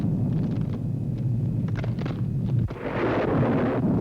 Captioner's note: crunching; ka-boom